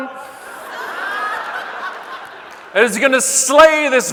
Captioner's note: audience laughing